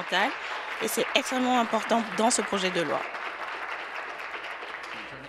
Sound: applause

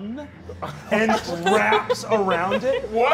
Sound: laughing

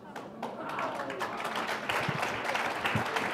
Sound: applause

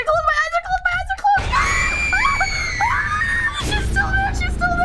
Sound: both shriek

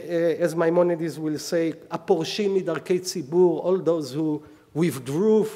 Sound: speaking hebrew

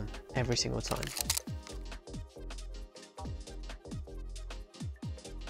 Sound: shutter clicking

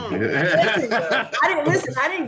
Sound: laughter

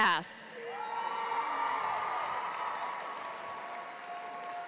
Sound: audience cheers

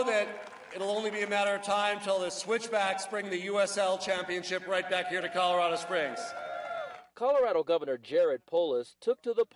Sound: cheers applause

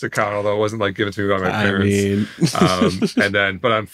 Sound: laughs

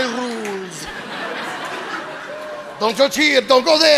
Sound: audience laughing

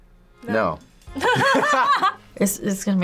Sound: both laugh

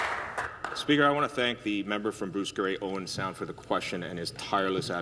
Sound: some Applause

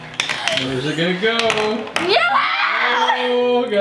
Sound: screaming

